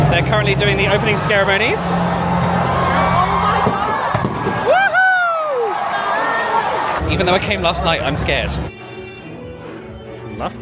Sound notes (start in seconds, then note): 1.9 guests cheering; 5.6 guests cheering; 8.6 instrumental music